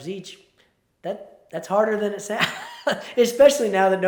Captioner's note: chuckles